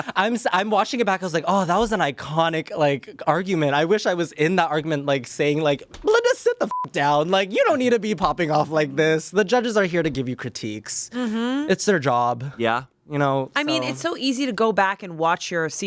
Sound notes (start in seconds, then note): 0.1 Shayne laughs; 6.7 beep